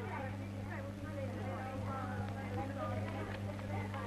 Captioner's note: none